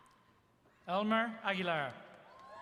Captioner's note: applause